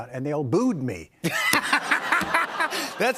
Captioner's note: laughter